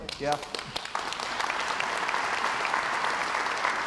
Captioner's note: crowd applauds